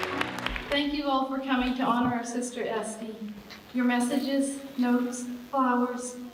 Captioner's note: applause